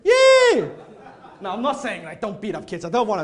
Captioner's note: audience laughing